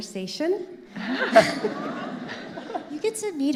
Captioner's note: all laughing